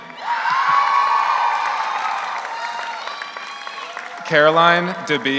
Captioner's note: audience applauds; audience cheers